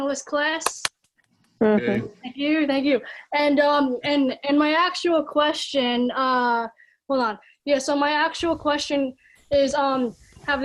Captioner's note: people clapping